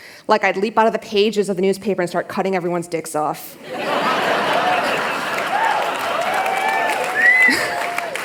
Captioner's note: laughter